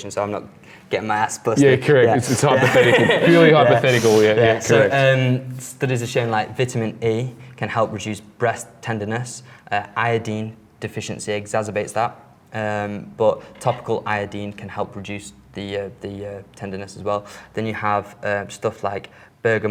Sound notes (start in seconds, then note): 6.1 laughs